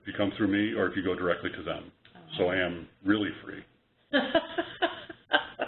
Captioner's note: laughter